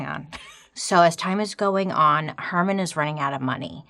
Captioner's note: laughing